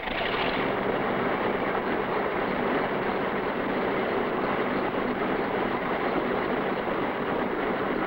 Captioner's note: engine Winding